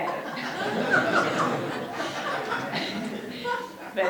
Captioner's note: audience laughs; audience laughs harder